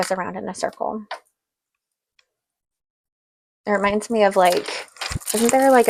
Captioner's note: beads continue spinning